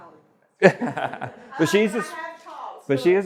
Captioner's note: laughs